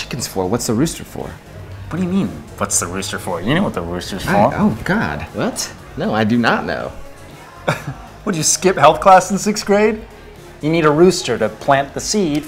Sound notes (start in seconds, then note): 6.7 scoffs